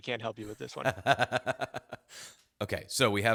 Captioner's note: laughs